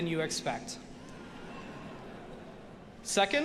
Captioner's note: audience laughing